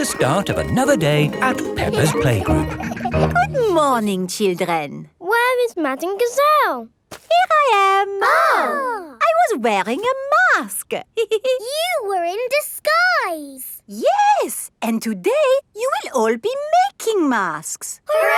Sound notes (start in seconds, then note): 8.0 exclaiming; 11.3 giggles